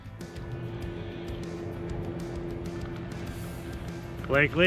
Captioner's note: engine roaring